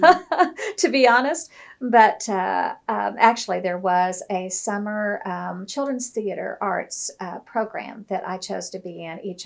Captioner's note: laughs